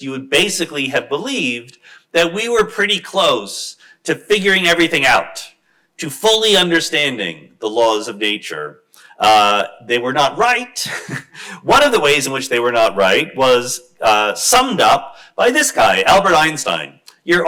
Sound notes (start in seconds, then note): 10.8 chuckles